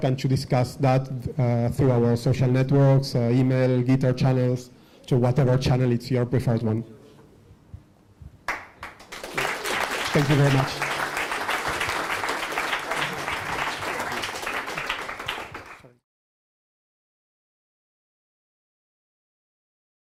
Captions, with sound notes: and to discuss that through our social networks, email, ether channels, to whatever channel is your preferred one. Thank you very much. (audience applauding)